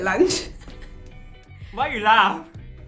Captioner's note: giggles